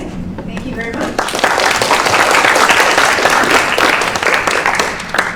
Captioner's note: applause